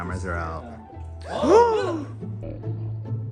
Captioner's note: all gasp; instrumental music